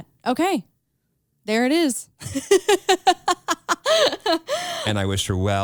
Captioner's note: laughs